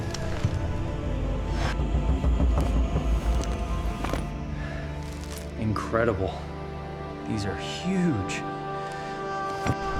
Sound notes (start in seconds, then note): 1.6 dramatic music; 1.6 footsteps; 1.6 metal clanking